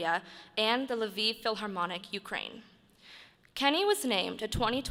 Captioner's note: none